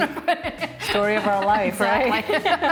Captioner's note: laughing